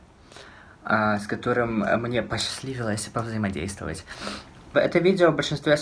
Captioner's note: sniffles